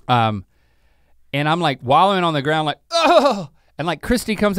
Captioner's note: grunts